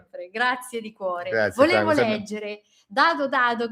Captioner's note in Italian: none